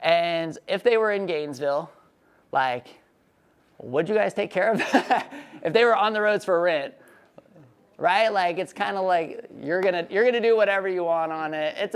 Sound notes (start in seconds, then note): 5.2 laughs